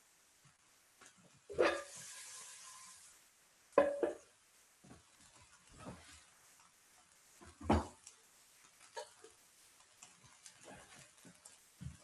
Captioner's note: silence